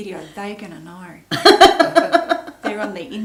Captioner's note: laughs